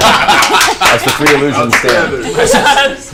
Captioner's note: all laugh